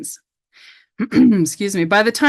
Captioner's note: clearing throat